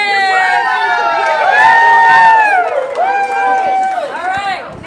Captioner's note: cheers